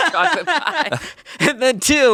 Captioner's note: laughs